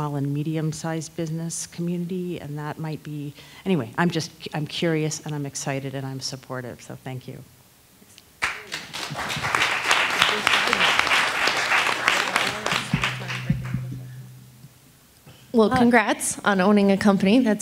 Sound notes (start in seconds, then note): 8.4 attendees applauding